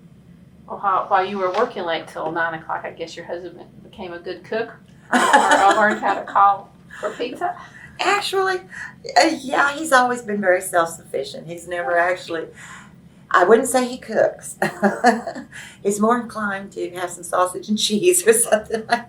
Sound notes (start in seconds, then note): 7.0 laughs